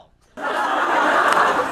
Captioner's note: laughs